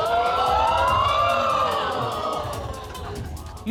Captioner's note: audience exclaiming